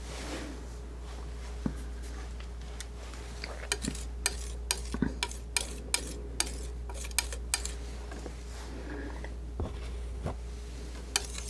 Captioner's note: scissors snipping